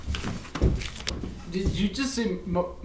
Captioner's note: footsteps running